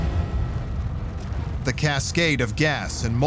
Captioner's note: fire roaring